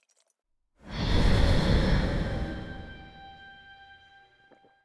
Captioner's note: rushing wind, flapping wings, breath